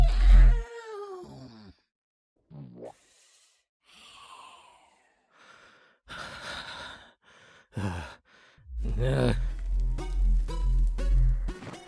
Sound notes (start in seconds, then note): 0.0 yawn; 2.8 snoring; 3.8 nervous breathing